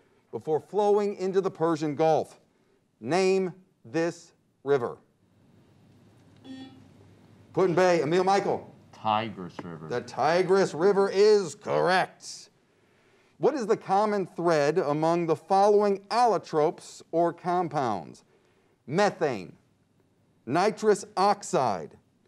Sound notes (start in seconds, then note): 6.4 buzzer beeps